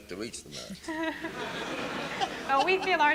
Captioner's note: laughter